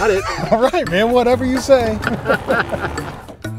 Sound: laughing

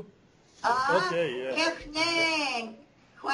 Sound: non-english speech

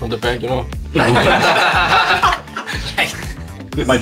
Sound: laughs in hysteria

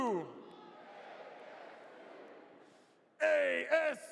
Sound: audience responds

